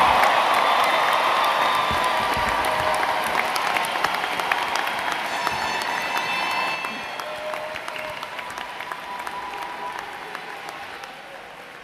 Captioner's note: applause